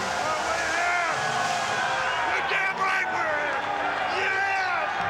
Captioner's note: applause